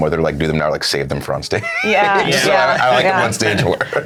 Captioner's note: laughs